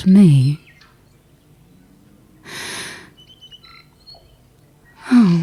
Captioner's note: sharp intake of breath